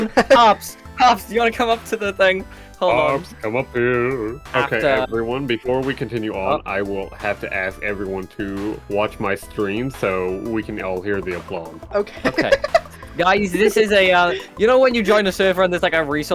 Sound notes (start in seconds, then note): 12.1 laughs